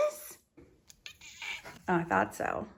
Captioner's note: Tippy meows